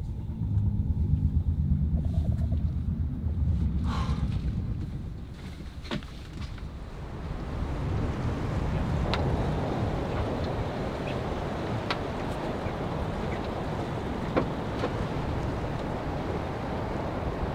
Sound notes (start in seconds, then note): 0.2 low rumbling; 3.8 exhales; 7.9 wind blowing